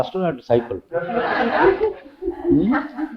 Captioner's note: laughter